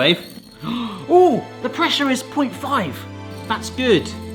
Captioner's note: gasps